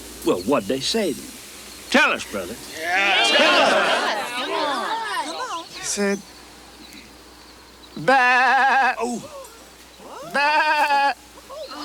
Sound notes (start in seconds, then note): 8.0 Crecencio bleats